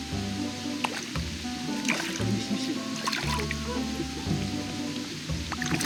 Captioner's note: sound of fish jumping